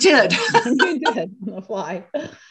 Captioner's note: laughter